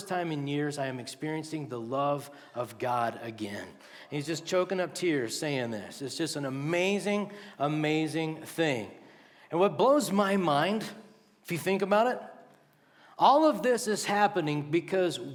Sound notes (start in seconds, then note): none